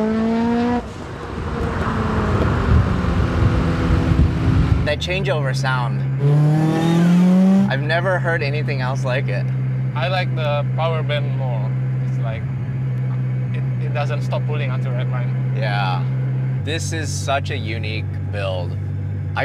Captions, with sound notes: That changeover sound, (car engine revving) I've never heard anything else like it. - I like the power band more. It's like... It doesn't stop pulling until red line. - Yeah. This is such a unique build.